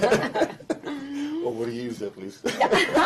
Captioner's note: laughter